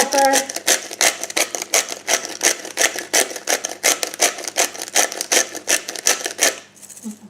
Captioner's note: pepper mill grinds